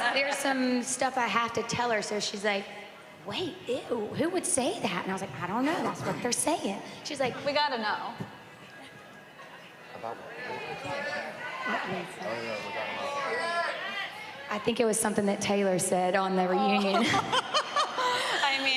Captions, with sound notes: Because there's some stuff I have to tell her, so she's like, "Wait, ew, who would say that?" And I was like, "I don't know. That's what they're saying." -She's like-- -We gotta know. [indistinct chatter] I think it was something that Taylor said on their reunion. [laughs]